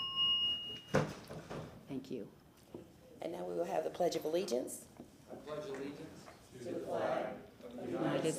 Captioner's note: bell ringing